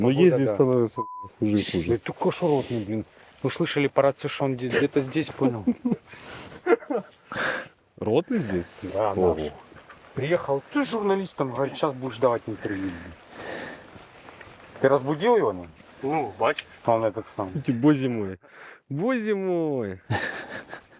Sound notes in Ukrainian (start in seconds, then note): 6.5 сміються